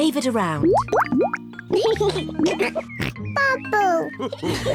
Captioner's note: laughs and snorts; all laugh